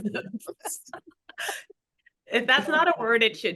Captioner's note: everyone laughing